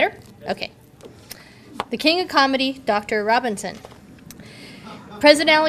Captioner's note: audience laughter